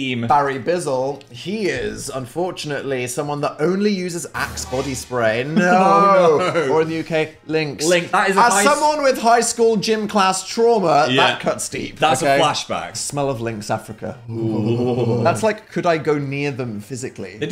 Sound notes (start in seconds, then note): 4.3 dramatic music; 5.5 laughs